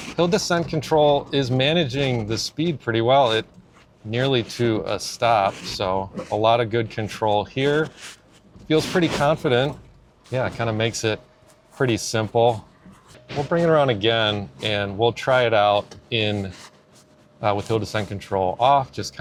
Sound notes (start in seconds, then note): none